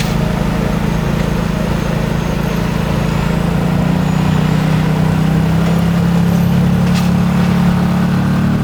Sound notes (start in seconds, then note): 0.1 tow truck winch whirring; 1.9 motor boat whirring; 5.0 water splashing